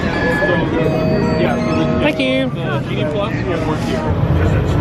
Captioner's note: machine rings